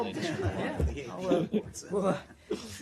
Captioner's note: laughter